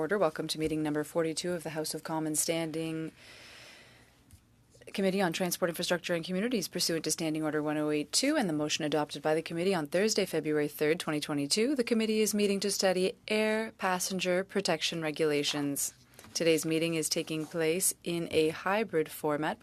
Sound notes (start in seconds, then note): 1.4 speaking French